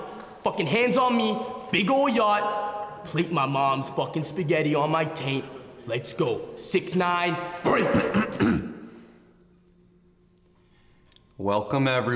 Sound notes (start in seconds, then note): 7.6 clearing throat